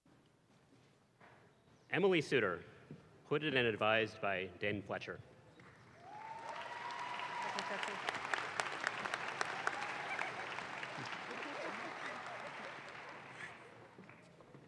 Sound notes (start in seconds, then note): 5.8 audience claps